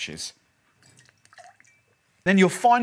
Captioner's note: shaking bottle